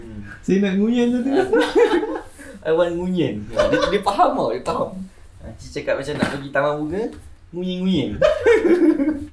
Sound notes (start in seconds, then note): 1.2 laugh; 8.1 laugh